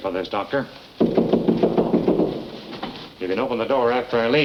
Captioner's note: knocking